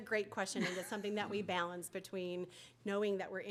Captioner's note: laughter